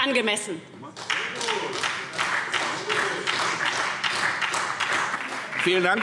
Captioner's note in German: Beifall SPD